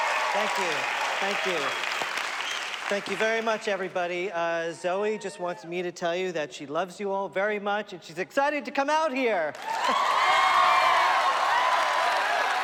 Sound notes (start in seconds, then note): 9.5 crowd clapping and cheering